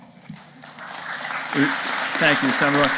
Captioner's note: audience applauding